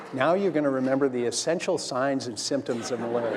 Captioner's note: laughter